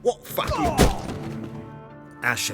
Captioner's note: groan; punch lands